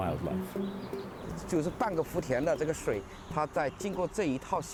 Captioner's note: speaking Chinese